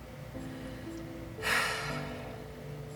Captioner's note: deep sigh